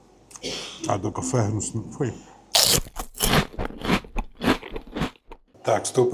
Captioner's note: sniff